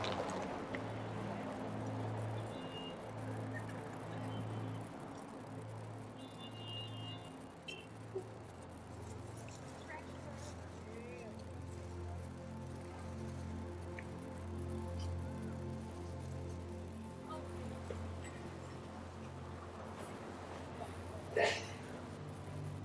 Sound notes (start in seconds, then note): 0.3 gentle music; 6.1 cars honking; 10.2 gentle music; 16.8 visitors chattering indistinctly